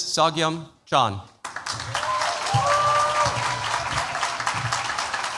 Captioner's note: cheers, applause